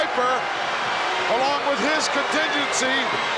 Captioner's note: crowd boos